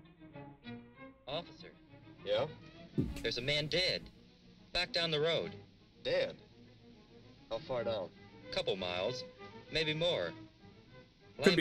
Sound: bad French Accent

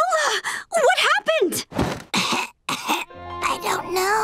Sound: gasping; coughing

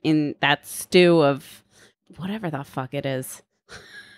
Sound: laughs

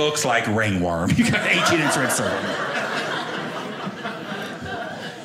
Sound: audience laughing

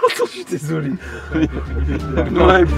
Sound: laughs

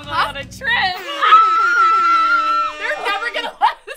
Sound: woman belly laughs

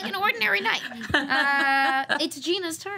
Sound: laughter

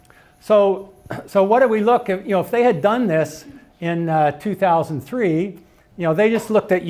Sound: cough

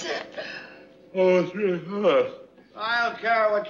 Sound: yawning

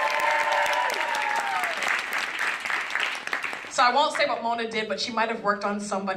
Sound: applause

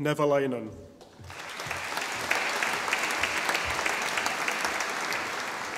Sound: audience applauding

